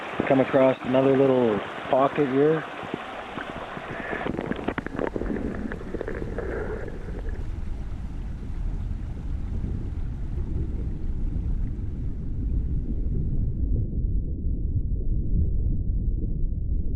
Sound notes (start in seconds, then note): 4.9 under water sounds